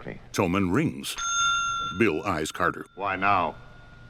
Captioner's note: bell dings